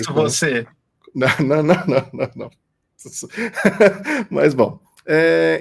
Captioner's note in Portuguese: risos